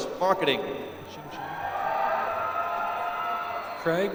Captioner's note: applause